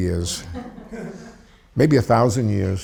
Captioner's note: audience laughs